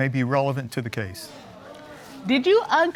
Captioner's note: audience gasping